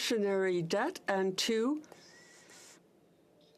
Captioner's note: speaking French